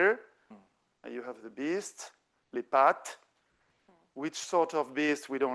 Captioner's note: speaking French